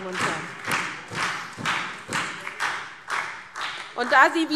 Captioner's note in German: Beifall SPD